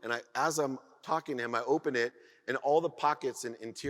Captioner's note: none